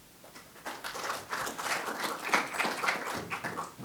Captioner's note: applause